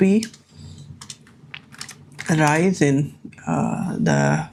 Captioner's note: keyboard clicking